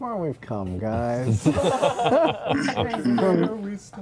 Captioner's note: laughter